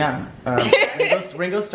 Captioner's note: laughing